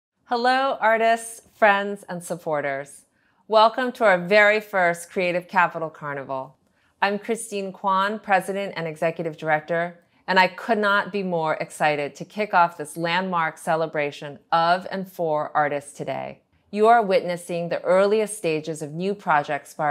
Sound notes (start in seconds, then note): none